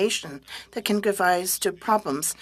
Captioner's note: speaking French